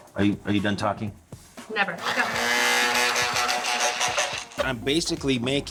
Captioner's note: processor blending